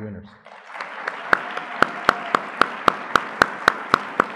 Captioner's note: audience clapping